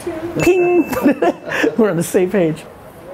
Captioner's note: dings